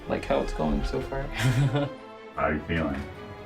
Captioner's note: laughs